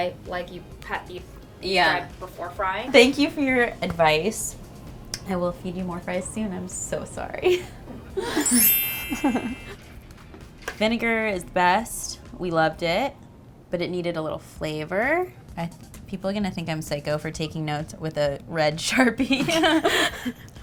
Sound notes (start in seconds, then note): 7.6 laughs; 8.2 chime sounding; 19.4 laughs